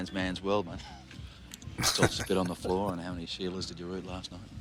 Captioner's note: chuckling